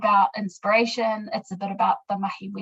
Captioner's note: speaking in foreign language